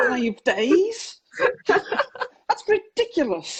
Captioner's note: laughs